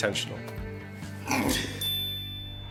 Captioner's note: laughs